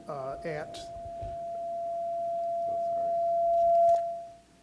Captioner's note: mic whines